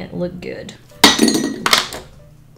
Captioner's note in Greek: Χτύπημα